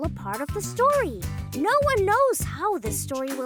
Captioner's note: none